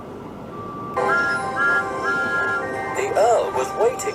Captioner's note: thomas tooting